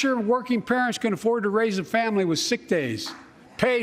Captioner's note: applause